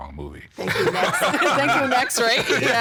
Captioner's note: all laughing